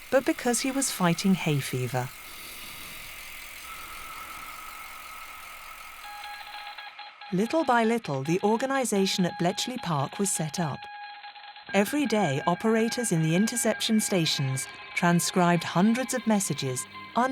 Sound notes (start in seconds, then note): 2.7 heavy breathing in mask; 3.9 bike reflector clicking; 6.2 code machine beeping